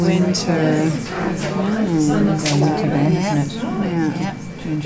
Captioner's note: participant chatter